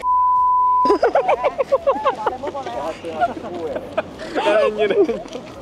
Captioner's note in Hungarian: Nevetés